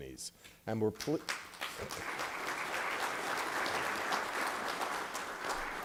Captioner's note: applause